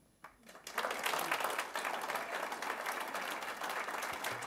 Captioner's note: audience applauds